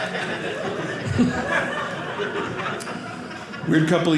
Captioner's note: audience laughing